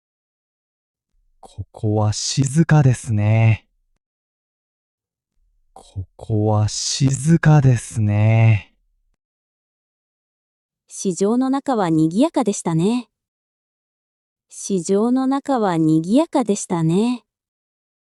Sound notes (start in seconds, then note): 5.6 quiet